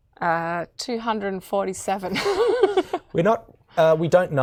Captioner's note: laughing